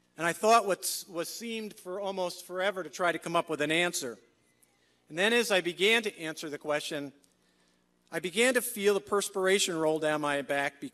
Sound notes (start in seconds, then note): none